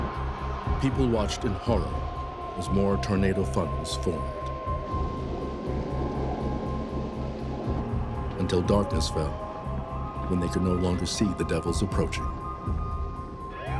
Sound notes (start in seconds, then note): 5.0 wind howling